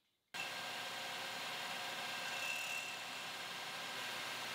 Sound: lathe whirring

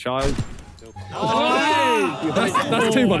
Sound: players groan

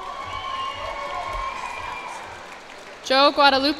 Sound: cheers and applause

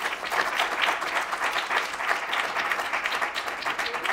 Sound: applause

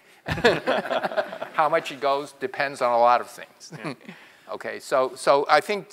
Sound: laugh

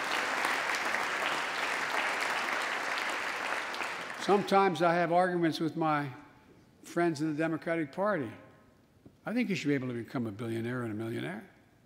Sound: applause

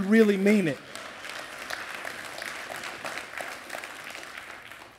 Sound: applause

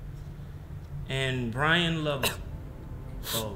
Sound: Bryan crying

